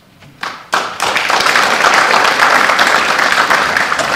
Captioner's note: applause